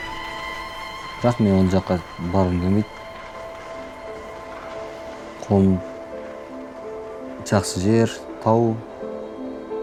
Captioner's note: man speaking Chinese: English translation on screen